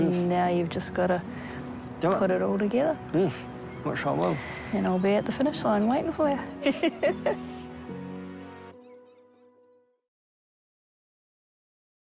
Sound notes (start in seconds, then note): 6.6 both chuckle